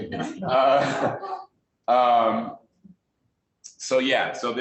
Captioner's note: laughing